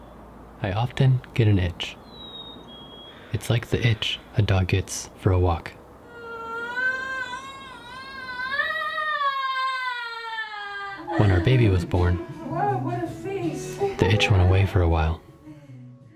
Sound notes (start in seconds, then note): 6.6 woman yells